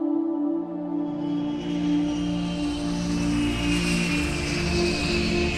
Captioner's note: airplane engine roaring